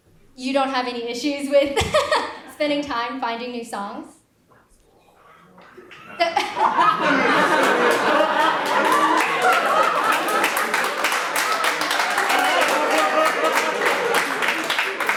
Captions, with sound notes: - You don't have any issues with spending time finding new songs? (audience laughs) (audience applauds)